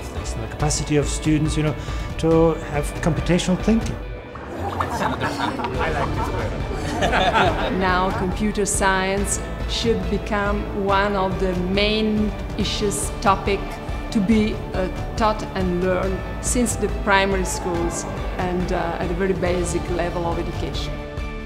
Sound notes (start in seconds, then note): 4.4 laughing